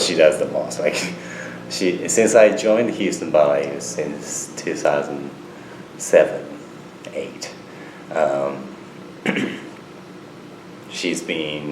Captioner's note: clears throat